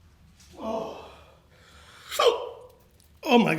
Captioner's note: groans; hiccups